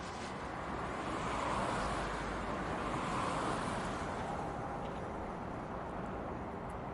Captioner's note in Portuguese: som de carros a passar